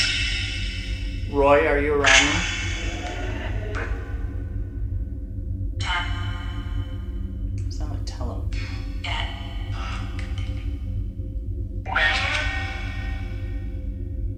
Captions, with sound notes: Roy are you around me? (chanting) Sounds like tell'em. (chanting) Roy are you here?